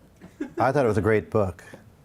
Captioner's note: man laughs